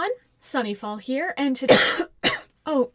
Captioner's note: cough cough